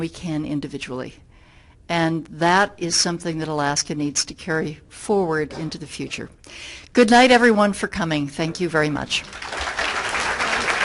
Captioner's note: applause from everyone